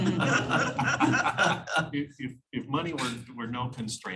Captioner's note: laughter